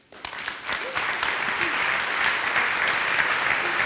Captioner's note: audience applauds